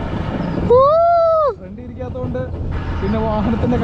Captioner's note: screaming